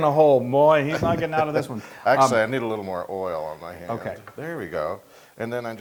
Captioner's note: laugh